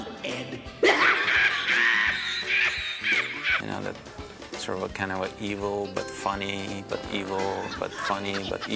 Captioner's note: Ed laughs hysterically